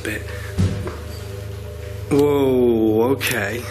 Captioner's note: dull thudding